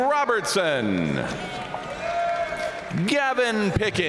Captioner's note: audience cheering and applauding